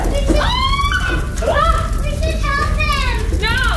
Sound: yelling

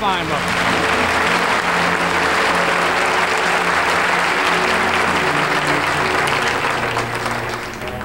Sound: audience applauding

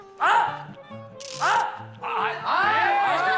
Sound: screaming

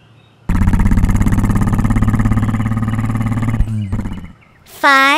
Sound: motor grumbling

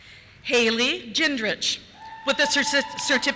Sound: cheers

